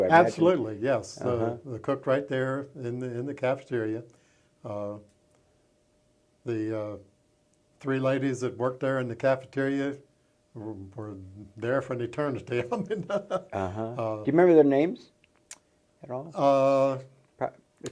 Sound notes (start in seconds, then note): 12.5 chuckles